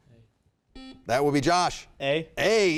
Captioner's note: buzzer beeping